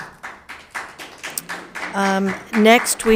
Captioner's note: crowd applauding